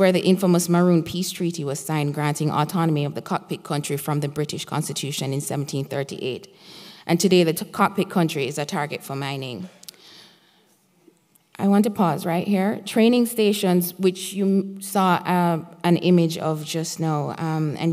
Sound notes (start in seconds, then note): none